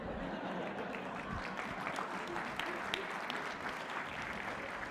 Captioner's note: applause